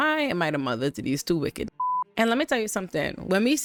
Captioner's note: beep